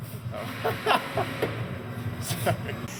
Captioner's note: laughs